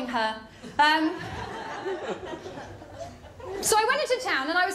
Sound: laughter

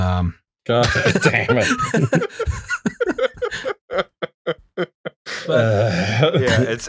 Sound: laughter

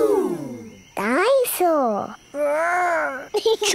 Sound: giggles

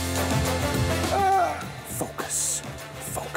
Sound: upbeat music; grunting

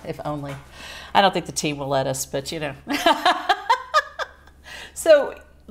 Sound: laughs

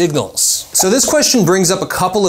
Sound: graphics whish

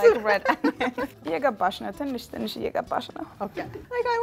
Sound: speaking Amharic

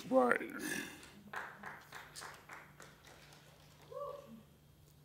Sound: applause

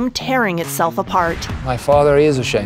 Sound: air whooshing

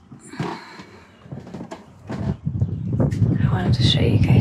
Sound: wind blowing; gulls screeching

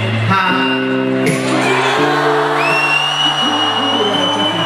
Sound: huge ovation from the crowd

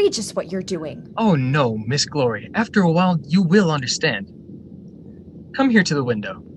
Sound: laughing

